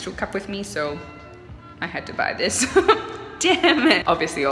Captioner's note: laughs